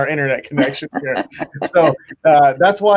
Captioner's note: laughing